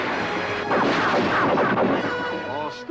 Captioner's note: splash; gunshots